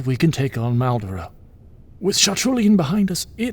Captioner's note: none